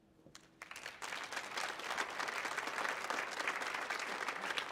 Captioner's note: audience applauding